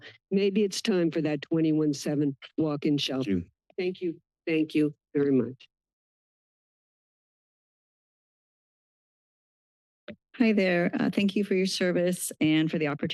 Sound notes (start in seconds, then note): 6.3 silence